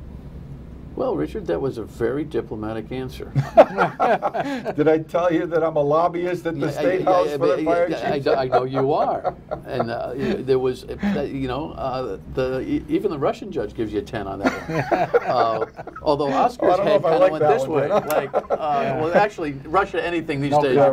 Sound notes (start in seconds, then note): 7.7 laughter